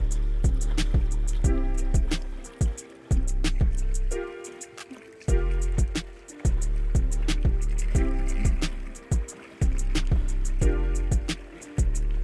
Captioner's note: water rushing